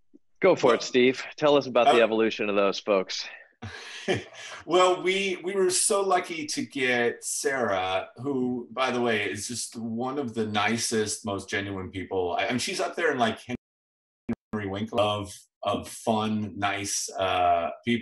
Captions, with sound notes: Go for it, Steve! Tell us about the evolution of those folks. [laughs] Well, we, we were so lucky to get Sarah, who, by the way, is just one of the nicest, most genuine people, and she's up there in like Henry Winkler-love of fun, nice, ah, people.